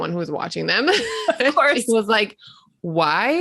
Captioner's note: laughing